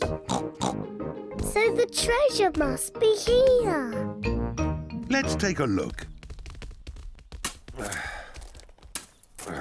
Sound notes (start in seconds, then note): 0.2 oinks; 7.3 grunting